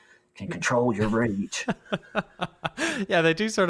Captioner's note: laughs